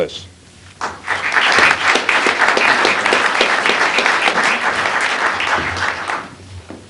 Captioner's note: applause